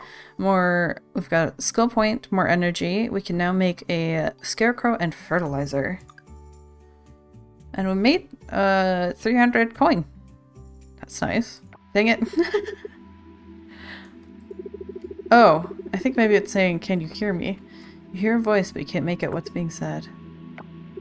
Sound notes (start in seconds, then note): 12.2 laughs